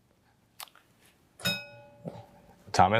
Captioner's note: bell dings